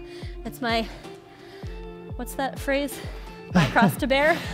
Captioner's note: laughs